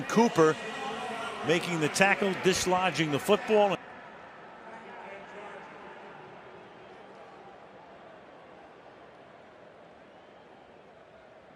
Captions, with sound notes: Stephen Cooper making the tackle, dislodging the football [audio out]. [pa announcement]